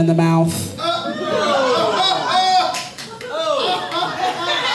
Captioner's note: audience laughing